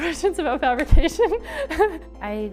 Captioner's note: laughs